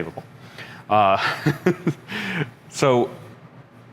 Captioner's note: chuckling